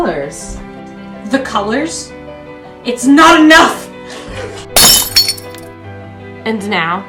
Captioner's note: smash